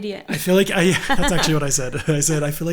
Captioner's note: both laughing